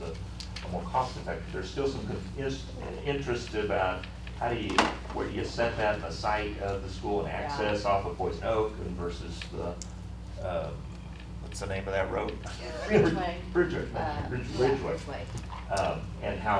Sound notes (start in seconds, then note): 12.5 laughter